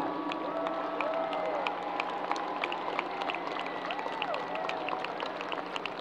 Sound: people cheering and applauding

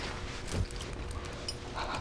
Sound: chain rattling

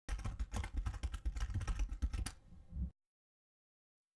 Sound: keyboard keys clicking

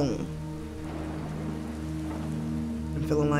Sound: faint thunder and rain coming down

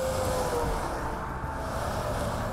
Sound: Traffic

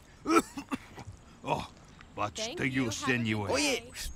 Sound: coughs; scoffs

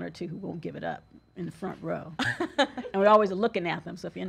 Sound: laughs

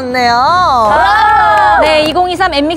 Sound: applause

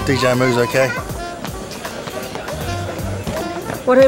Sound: indistinct chatter, child runs past

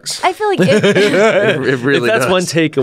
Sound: laughs

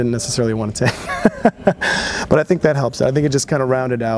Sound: laughs

